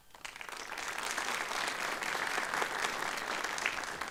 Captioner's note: applause